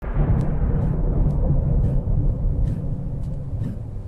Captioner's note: thunder